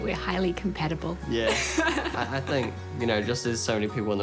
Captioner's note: laughs